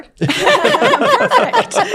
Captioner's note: panelists laughing